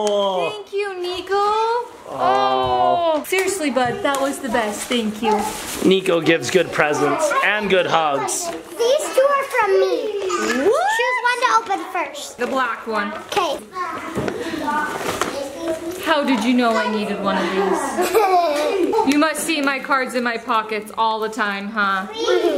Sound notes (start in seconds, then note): 17.9 laughs